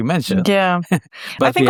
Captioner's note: laughs